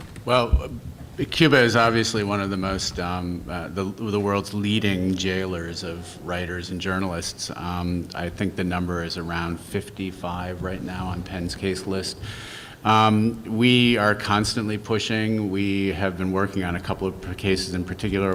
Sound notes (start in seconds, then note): none